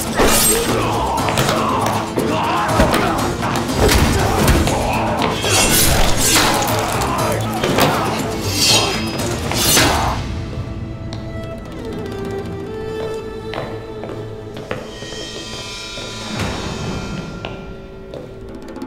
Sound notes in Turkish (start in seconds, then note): 0.0 Müzik - Aksiyon; 5.4 Darp sesleri; 5.4 Kılıç sesleri; 12.4 Müzik - Gerilim